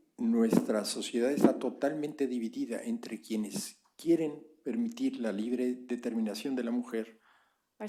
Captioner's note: spanish